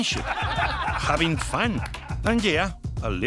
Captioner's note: laughing